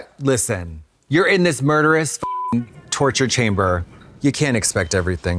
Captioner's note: beep